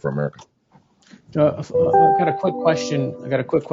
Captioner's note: alert chiming